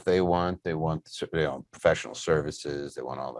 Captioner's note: murmurs